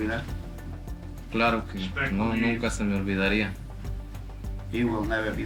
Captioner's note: speaking Spanish